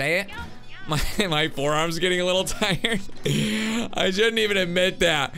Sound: laughs

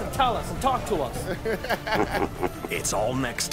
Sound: laughs

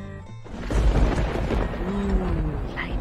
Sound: thunder rumbles

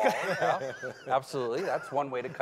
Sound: laughing

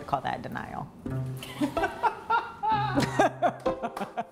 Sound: laughter

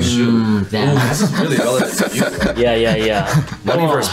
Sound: laughing

